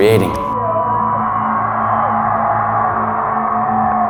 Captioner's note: crowd cheering